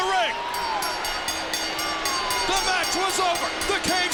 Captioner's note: bell rings